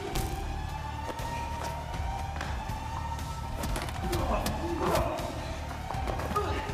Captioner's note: tense music continues; alarm wailing